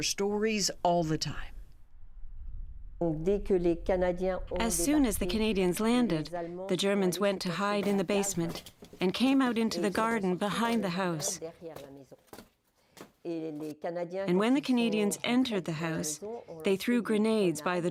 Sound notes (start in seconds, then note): 6.5 speaking French